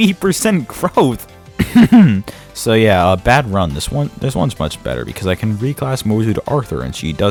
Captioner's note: clears throat